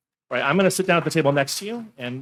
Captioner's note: audience applauding